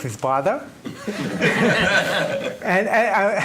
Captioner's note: laughing